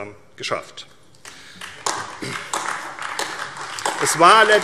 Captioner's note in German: Beifall AfD